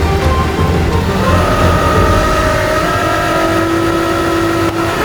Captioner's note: tow truck winch whirring